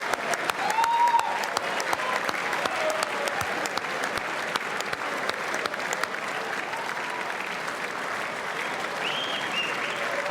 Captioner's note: whistles; applause